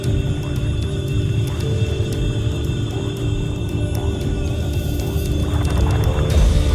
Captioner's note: water gurgling